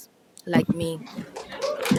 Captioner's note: applause